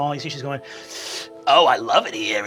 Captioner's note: inhaling